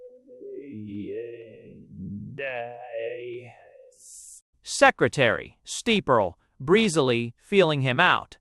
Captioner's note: _Sarcastically. _